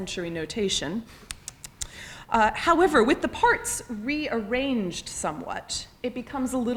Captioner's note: tsks